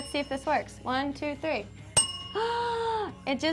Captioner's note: bell chimes